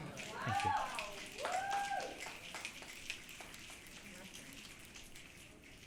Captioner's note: audience clicking and cheering